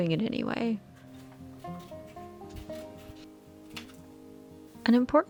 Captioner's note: paper cutting